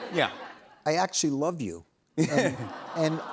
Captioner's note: audience awws